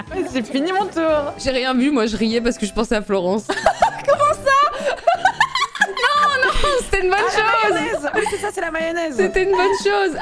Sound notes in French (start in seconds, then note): 3.6 rire outré